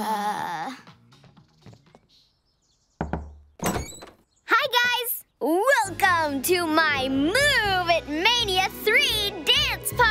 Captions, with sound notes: [door knock] Hi, guys! Welcome to my Move-It Mania Three dance party!